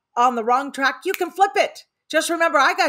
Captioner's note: fingers snapping